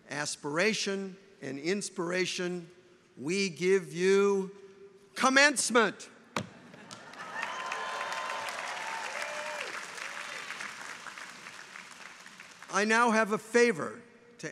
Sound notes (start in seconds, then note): 6.8 audience applauds; 7.0 audience cheers